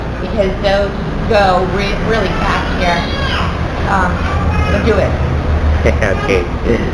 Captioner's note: laughter 00:04:03